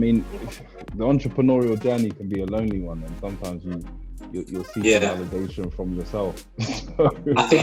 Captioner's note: laughs